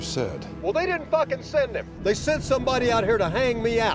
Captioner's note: on phone